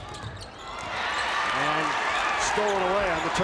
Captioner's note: crowd applauds